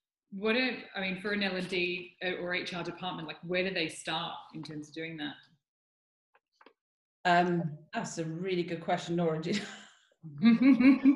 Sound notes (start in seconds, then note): 10.4 laughs